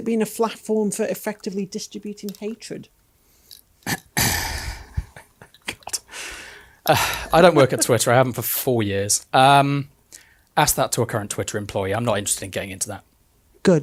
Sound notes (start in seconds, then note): 4.0 laughing